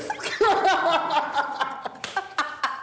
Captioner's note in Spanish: risas